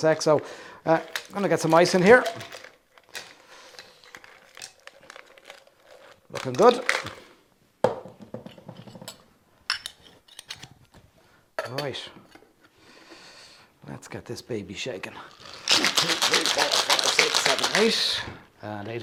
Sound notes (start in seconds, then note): 2.9 ice clunking; 7.8 cup clatters on counter; 15.2 drink and ice shaking